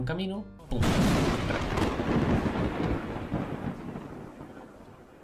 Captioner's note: thunder noises